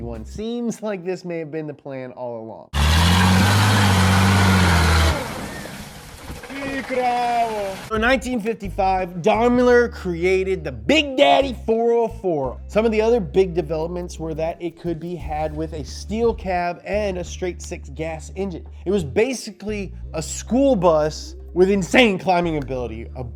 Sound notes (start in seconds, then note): 2.7 engine roaring; 6.7 speaking foreign language